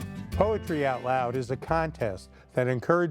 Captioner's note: voiceover